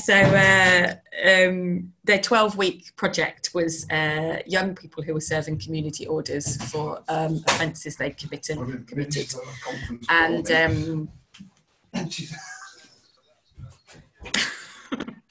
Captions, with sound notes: So their 12-week project was young people who were serving community orders for offences they committed. And (man laughing).